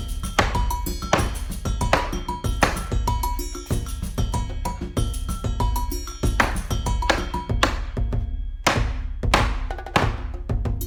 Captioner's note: hammer: Tap tap